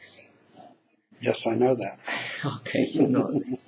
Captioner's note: laughing